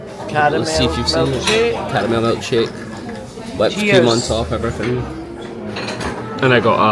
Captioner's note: cheers